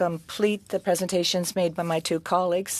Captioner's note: speaking french